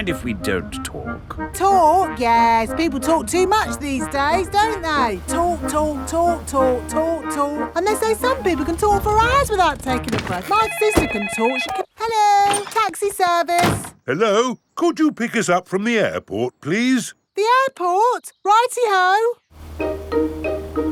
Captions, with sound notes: -Do you mind if we don't talk? -Talk! Yes, people talk too much these days, don't they? Talk, talk, talk... And they say some people can talk for hours -without taking a breath. My sister can talk... -(CELLPHONE RINGING) Hello, Taxi Service. Hello. Could you pick us up from the airport, please? The airport? Righty-ho!